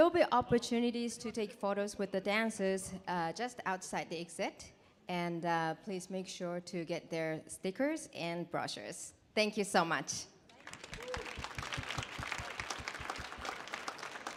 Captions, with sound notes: There'll be opportunities to take photos with the dancers just outside the exit, and please make sure to get their stickers and brochures. Thank you so much. [audience clapping]